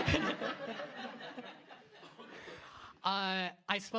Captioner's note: laughter